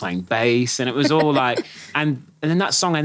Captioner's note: laughing